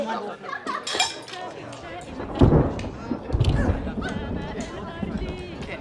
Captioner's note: thunder rumbling